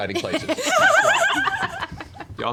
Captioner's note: laugh